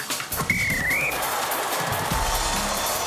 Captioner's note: whistle blows